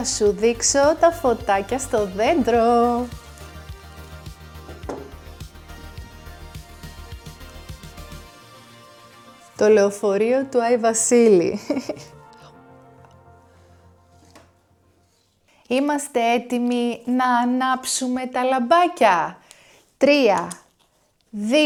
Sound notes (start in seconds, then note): 3.1 sound of knocking on the table; 11.5 laughter